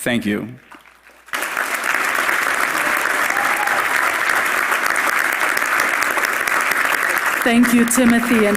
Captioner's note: applause